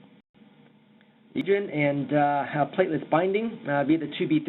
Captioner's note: audio breaks